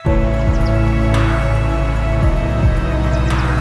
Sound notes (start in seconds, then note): 0.0 bird chirping; 2.0 dramatic music